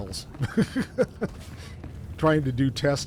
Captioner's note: laughs